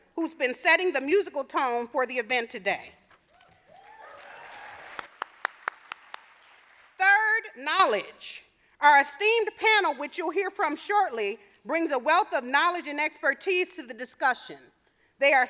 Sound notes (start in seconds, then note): 3.6 audience applauding